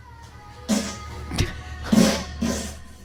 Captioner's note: laughing; farting